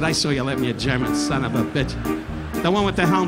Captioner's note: audience laughing